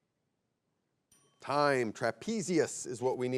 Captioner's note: bell chimes